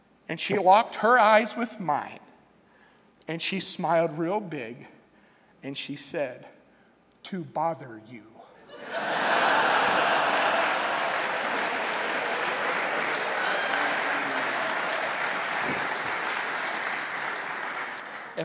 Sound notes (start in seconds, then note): 8.6 laughter; 11.8 applause